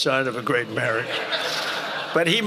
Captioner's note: laughter